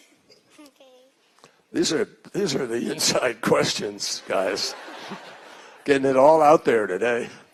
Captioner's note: laughter